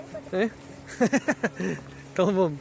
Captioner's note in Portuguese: risos